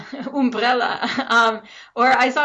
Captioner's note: chuckles